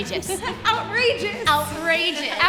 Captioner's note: happy laughter